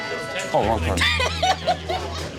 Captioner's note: laughs